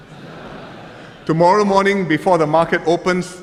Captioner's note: laughter